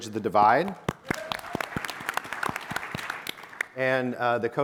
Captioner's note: audience applauding